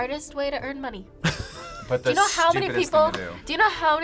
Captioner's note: laughs